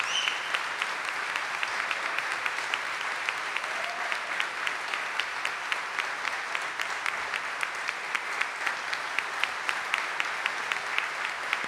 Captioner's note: audience cheering and applauding